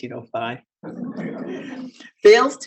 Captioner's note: audience chuckles